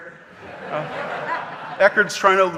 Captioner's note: audience laughing